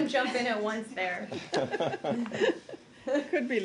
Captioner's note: laughter